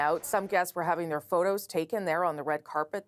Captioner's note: shots fired